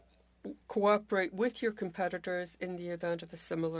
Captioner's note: speaking French